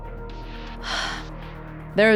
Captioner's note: sighs